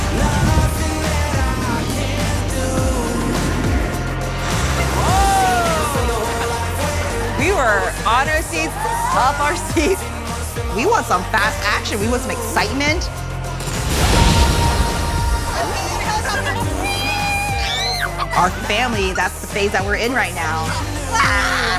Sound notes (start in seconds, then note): 3.6 wind gusts; 16.5 daughter screams; 17.4 mom mimics airplane zooming